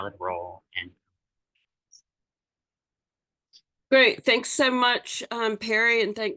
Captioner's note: voice trails off